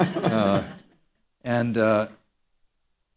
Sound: laughter

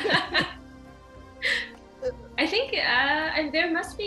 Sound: laughter

